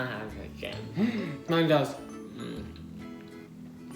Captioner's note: gasp